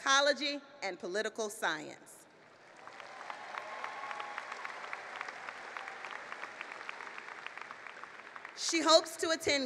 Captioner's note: applause